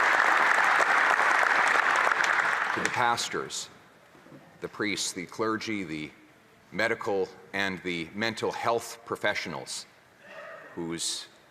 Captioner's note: some Applause